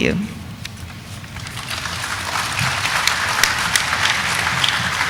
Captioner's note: audience applauding